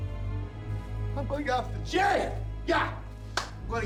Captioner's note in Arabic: تصفق الأيدي